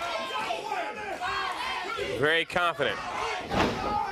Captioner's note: crowd cheering